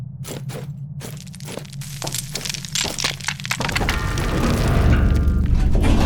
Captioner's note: debris and metal clattering and sliding